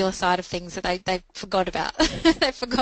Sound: laughs

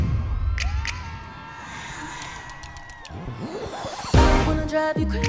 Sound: crowd cheering

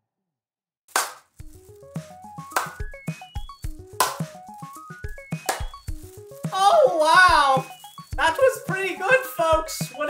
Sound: clapping

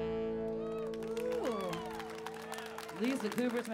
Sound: audience clapping

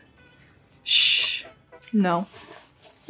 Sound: Gigi shushing

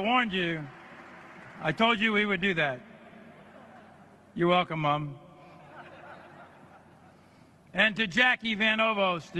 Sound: applause

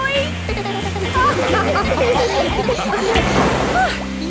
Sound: laughing; giggles

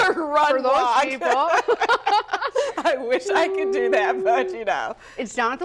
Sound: laughter

